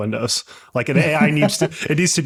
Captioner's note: laughing